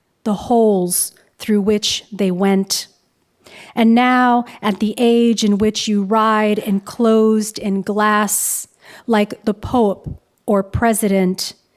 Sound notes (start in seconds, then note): none